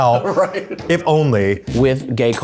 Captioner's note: laughs